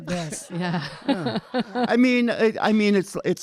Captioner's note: audience laughing